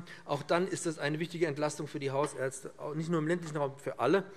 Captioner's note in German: none